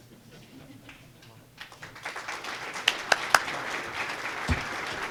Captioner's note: applause